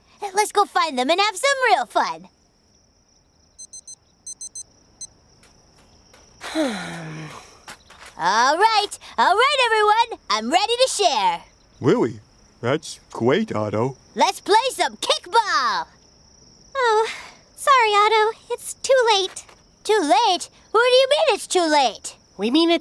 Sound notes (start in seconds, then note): 4.2 beeping; 6.4 sighing